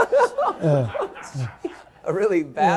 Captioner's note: laughter